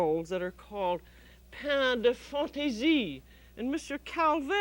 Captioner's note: speaks French